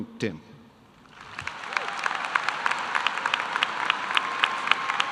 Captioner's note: audience applause